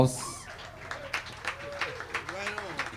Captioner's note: audience cheering and applauding